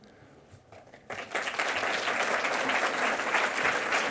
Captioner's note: audience applauding